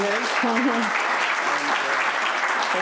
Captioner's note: applause